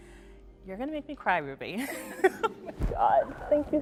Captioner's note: laughs